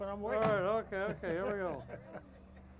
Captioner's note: laughs